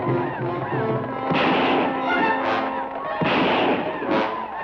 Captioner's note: guns fire